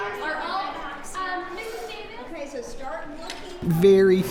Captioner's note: children talking at once